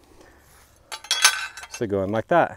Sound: pieces clanging

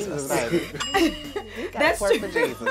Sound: bell rings

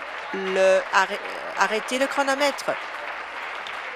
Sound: applause

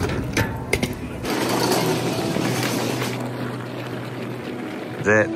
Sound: luggage rumbling

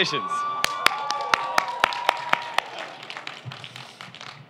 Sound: cheering

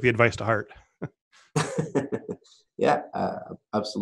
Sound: laughing

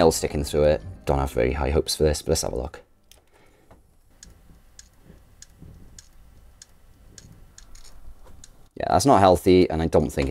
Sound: sound of drive failing

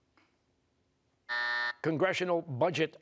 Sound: buzzer

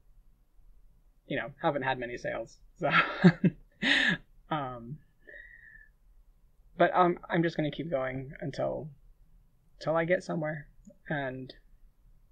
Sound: laughing

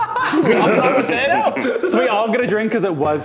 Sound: laughing

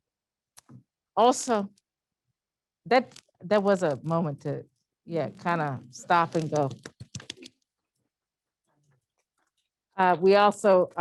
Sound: claps

